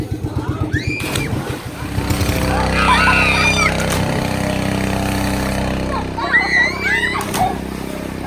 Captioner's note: screams